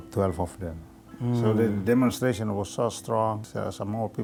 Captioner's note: murmurs